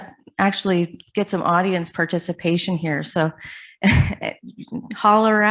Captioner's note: chuckles